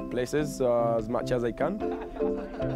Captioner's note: laughing